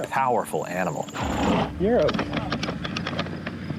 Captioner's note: horse snorting